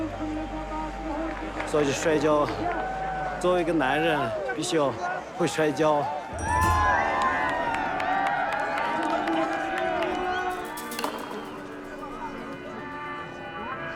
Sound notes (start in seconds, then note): 7.1 crowd yelling, applauding